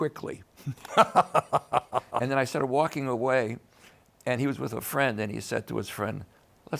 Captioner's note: laughs